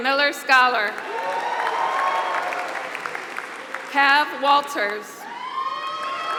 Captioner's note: applause